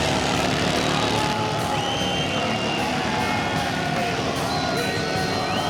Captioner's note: people shouting and cheering